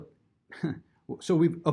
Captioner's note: chuckles